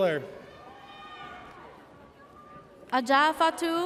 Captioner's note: audience cheers